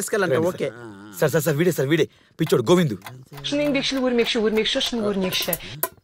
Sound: Chinese language in TV

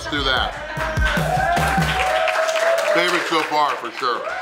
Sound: cheering & Clapping

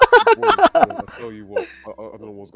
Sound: group laughter

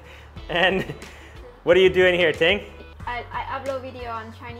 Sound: laughs

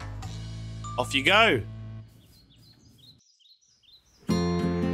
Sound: birds chirping

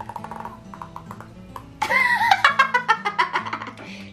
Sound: balloon makes toot noises

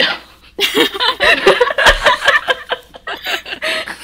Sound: hosts laugh

